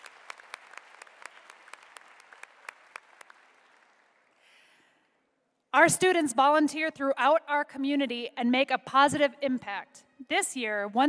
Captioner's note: applause